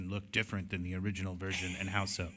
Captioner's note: laughter